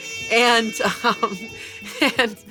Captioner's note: laughs